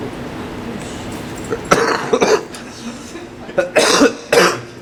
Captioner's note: cough, cough